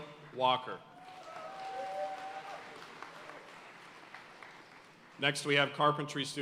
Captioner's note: audience cheering and applauding